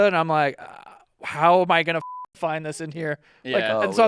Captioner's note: beep